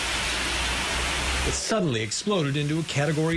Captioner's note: rain